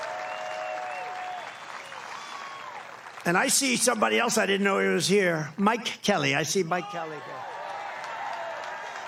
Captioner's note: applause